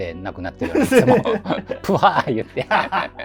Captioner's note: laughing